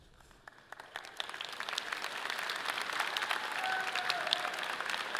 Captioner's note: audience applauding